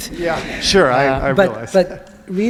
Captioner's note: audience laughs